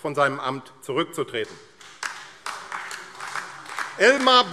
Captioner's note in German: Beifall AfD